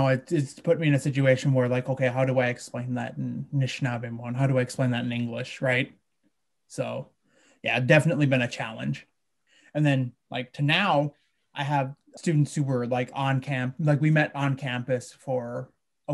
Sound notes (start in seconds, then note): 4.3 speaking in a foreign language